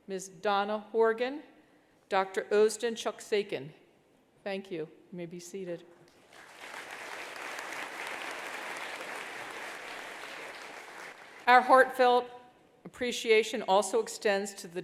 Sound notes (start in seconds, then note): 6.2 attendees applauding